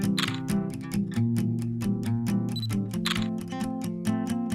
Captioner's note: camera shutter clicking; bright acoustic guitar music